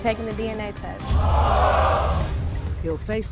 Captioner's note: gasping